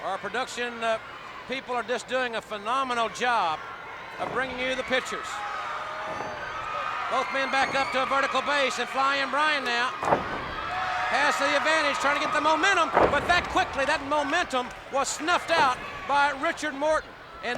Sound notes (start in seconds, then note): 6.1 blows thudding; 12.7 body thudding